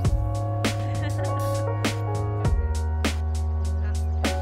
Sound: chill music; laughs

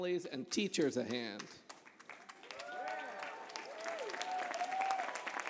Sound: applause

